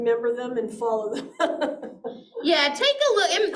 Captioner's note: chuckles